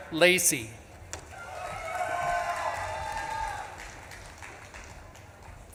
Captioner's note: audience claps and cheers